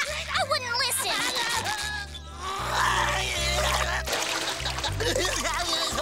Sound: crying; crying

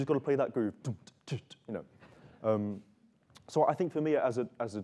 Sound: beat boxing

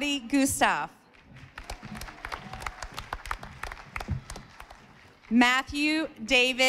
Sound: audience applauding

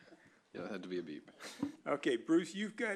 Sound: laughter

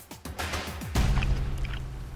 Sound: chewing

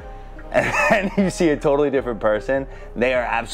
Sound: laugher

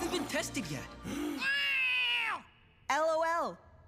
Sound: angry meowing

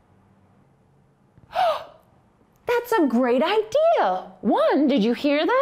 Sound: gasp

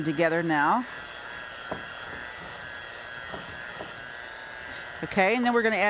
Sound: mixer whirring

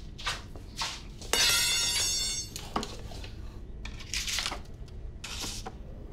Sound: rebar clangs on the floor

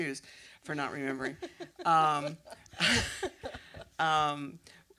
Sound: laughs

